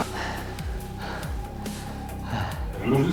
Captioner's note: heavy breathing; suspense music